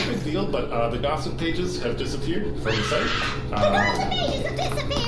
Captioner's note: screams